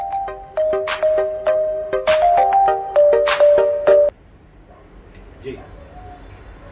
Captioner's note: mobile ringing